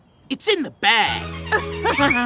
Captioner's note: chuckles